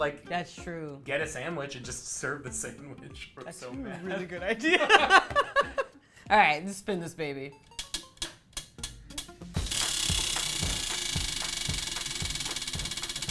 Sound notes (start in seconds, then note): 4.5 laugh; 7.7 spinner clicks